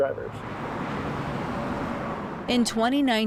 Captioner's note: traffic roaring